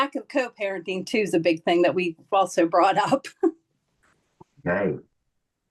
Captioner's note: laughs